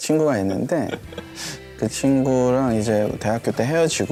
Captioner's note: haha